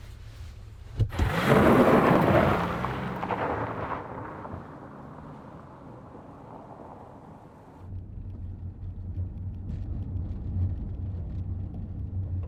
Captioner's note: engine revs